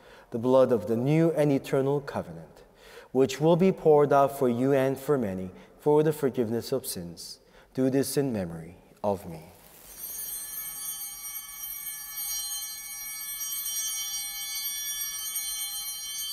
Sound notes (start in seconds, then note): 9.7 bell ringing